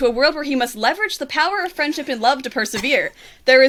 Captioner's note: muffled pain